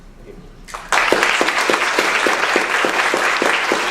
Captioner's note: applause